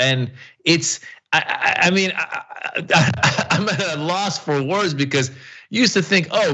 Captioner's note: laugh